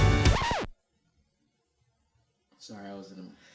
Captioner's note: record scratch